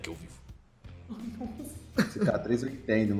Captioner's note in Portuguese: risada